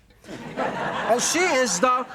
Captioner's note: audience laughing